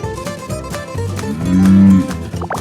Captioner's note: graphics popping; upbeat music continues; cow mooing; graphics popping